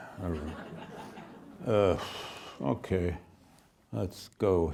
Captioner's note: audience laughing